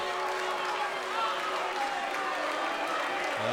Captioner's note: cheers & applause